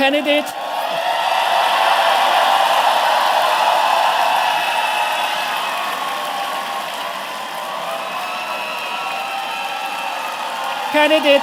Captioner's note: cheers and Applause